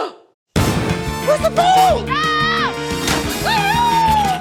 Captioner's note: gasps; shouts; crows